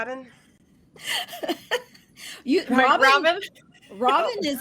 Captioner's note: laughs